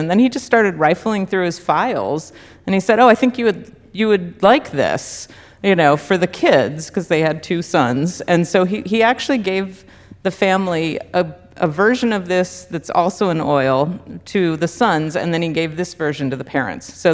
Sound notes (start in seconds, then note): none